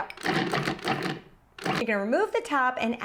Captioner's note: food processor pulses